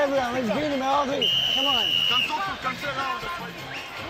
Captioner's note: whistle blows